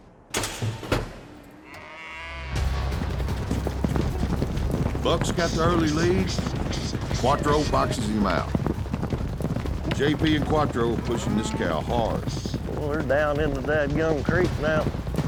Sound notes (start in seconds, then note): 0.3 chute opens; 3.0 galloping horses; 8.7 horses galloping